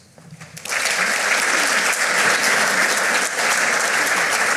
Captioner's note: audience applauding